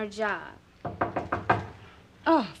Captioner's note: knocking on door